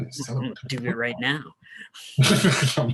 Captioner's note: murmurs; giggling